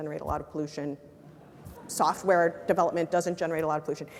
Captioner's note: laugh